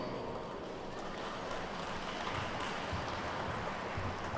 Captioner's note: attendees clapping